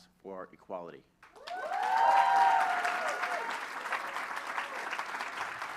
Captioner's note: applause